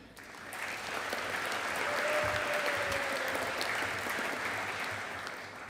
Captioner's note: audience applauding